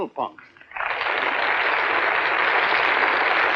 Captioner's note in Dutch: applaus